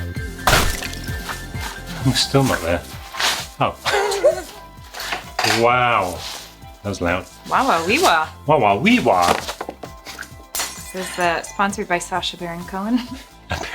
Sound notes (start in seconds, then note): 0.4 exaggerated box thudding; 3.8 laughs; 10.7 fake glass shattering